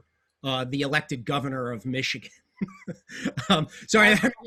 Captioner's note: laughs